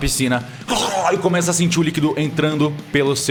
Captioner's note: drowning noises